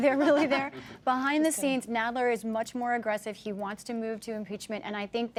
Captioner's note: laughter